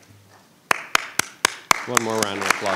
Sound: applauding

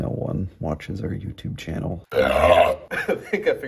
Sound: burps

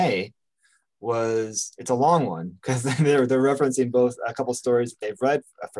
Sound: chuckles

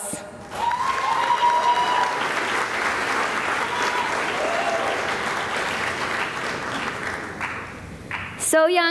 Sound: cheering and applause

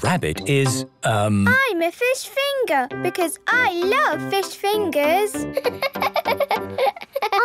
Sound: laughing

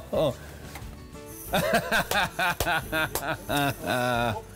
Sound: man laughing

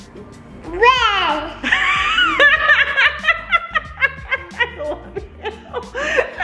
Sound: laughs

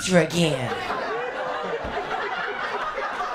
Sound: laughter, applause, and cheering

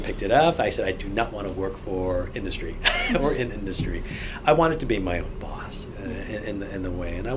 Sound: laughs

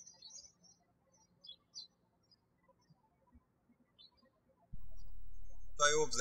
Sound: birds chirping

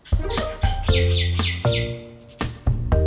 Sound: birds chirping

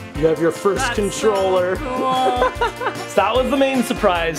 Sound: laughing

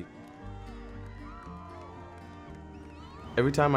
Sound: crowd cheering

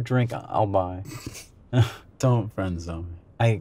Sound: chuckles

